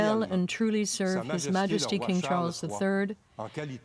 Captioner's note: speaking French